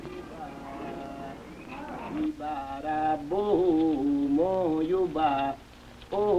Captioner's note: chanting